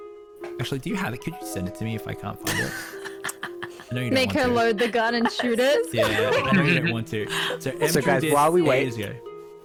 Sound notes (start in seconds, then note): 2.5 disbelieving giggle